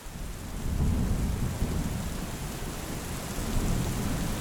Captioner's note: rain pattering